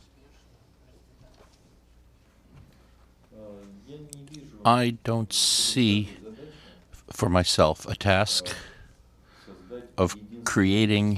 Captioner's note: through translator